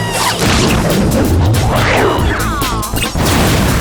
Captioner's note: screaming